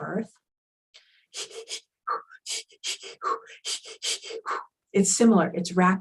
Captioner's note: panting